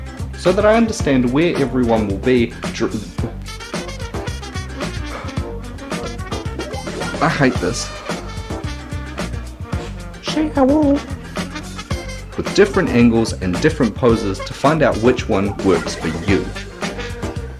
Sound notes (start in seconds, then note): 3.7 stammers off track; 4.7 exhales loudly